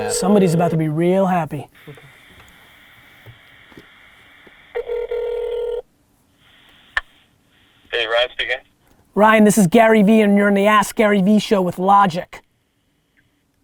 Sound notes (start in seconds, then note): 4.7 phone ringing